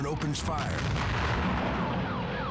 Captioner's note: gun firing